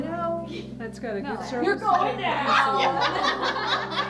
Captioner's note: laughs